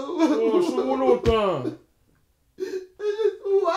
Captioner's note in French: pleurs